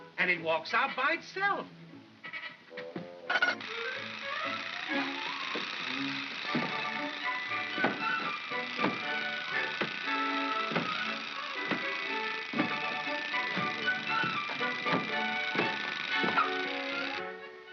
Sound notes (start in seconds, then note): 3.2 mechanical rattling sound; 3.3 chattering sound of gears; 4.6 heavy footsteps; 4.6 whimsical music